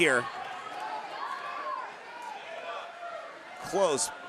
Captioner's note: audience cheering